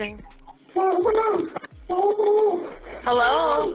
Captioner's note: muffled cries